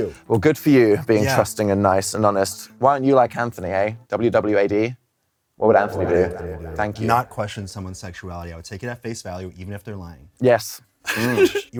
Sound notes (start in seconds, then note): 5.8 echoes; 11.1 laughs